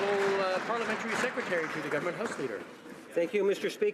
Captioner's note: some Applause